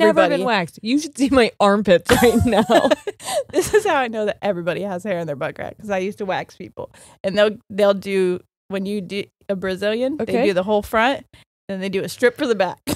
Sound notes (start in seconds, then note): 2.1 both laughing